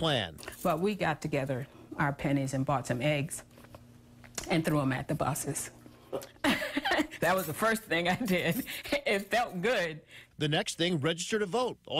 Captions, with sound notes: GIVE UP HER SEAT ON THE BUS, NELL AND HER FRIENDS HATCHED A PLAN. WE GOT TOGETHER OTHER PENNIES AND BOUGHT SOME EGGS AND THREW THEM AT THE BUSES. [LAUGHTER] THAT WAS THE FIRST THING I DID. IT FELT GOOD.